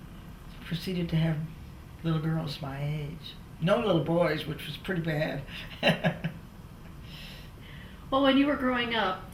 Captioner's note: laughs